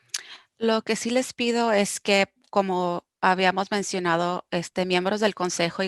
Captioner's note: speaking foreign language